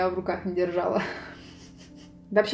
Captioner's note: giggles again